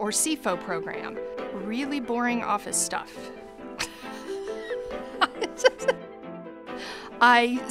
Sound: laughs

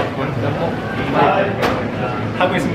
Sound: hmm…

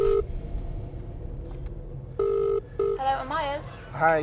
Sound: phone rings

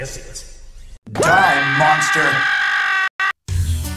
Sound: screaming

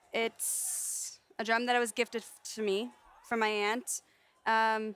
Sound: none

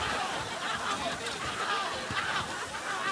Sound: screaming

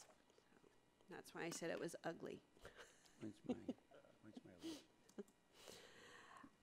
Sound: laughing

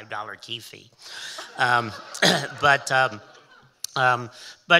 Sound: audience laughing

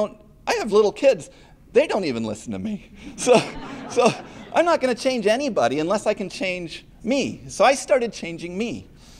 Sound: laughter

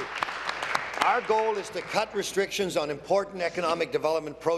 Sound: applause

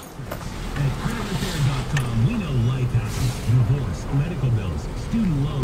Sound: keys jingling; radio chatter

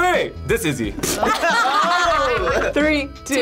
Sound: group laughs

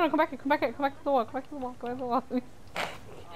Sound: laughs

